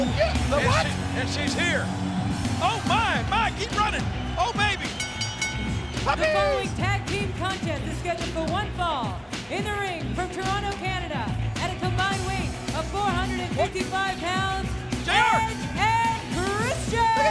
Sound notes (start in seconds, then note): 4.8 bell ringing; 6.1 Jerry whooping